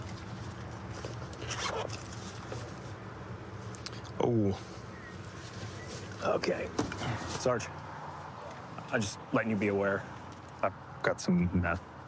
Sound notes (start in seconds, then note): none